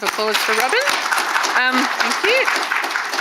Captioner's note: audience applauding